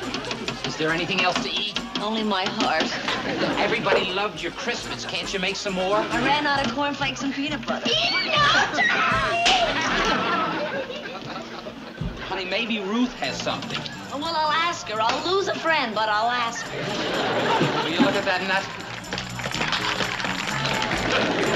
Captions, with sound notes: Is there anything else to eat? Only my heart. Everybody loved your crispettes. Can't you make some more? I ran out of cornflakes and peanut butter. -(woman shrieking) -(balloon popping) Honey, maybe Ruth has some. Well, I'll ask her. I'll lose a friend but I'll ask. Would you look at that nut? (people cheering)